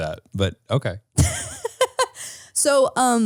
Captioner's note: laughing